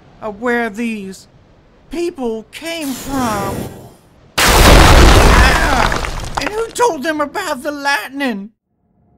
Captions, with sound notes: of where these.. 'people' came from. *sneaky lightning sfx* *not so sneaky lightning sfx* Argh! "And who told them about the lightnin'?"